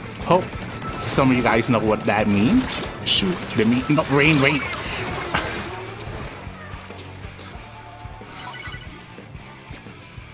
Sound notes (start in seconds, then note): 5.2 light chuckles